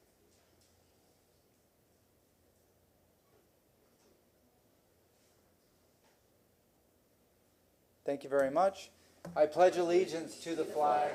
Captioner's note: moment of silence